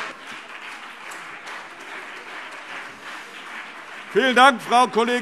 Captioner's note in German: Beifall CDU und BÜNDNIS 90/DIE GRÜNEN